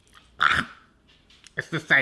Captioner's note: gagging